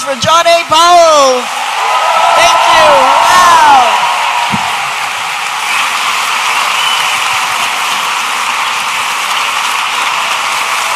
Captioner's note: audience applauding